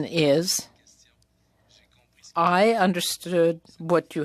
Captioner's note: speaking French